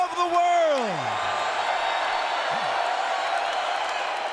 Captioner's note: audience cheers